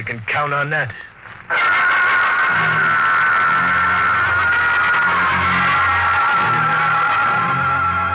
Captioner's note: screaming